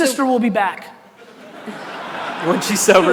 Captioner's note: audience laughter